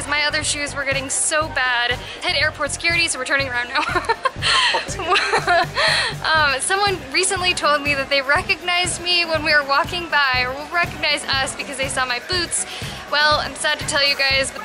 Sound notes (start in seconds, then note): 3.8 laughter